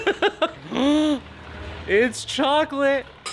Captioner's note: laughing